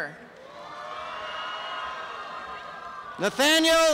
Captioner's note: applause and cheering